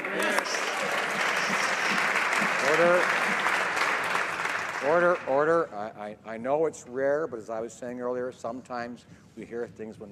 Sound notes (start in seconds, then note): 6.0 applause